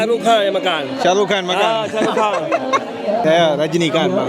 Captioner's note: laugh